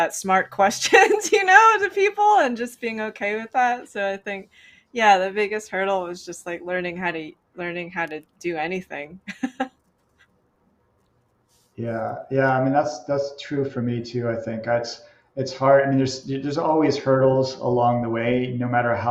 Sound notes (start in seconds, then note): 9.2 laughs